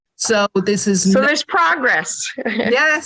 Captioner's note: laugh